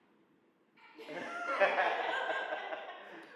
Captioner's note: laughing